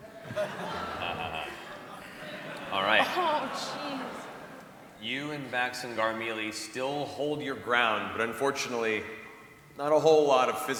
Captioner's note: chuckles